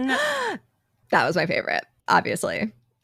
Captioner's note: gasps